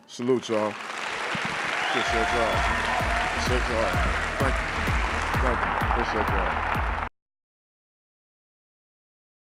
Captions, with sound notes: Salute y'all. (crowd clapping) I appreciate y'all. (crowd cheering) Thank you, thank you I appreciate y'all.